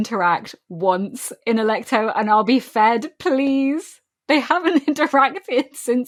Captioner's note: laughing